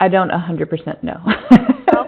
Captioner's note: chuckling